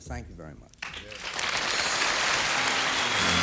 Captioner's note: applause